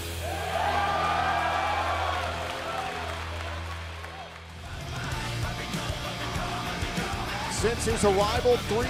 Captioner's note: cheers and applause